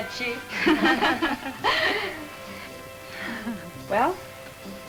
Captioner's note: women laugh